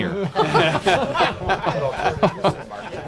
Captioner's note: laughter